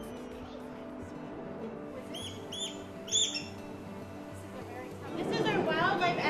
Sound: gentle music; eagle squeaking

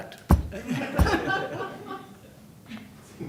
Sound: laughter

